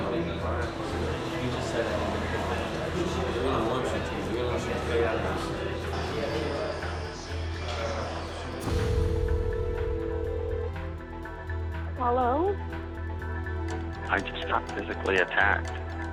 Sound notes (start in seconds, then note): 12.6 on phone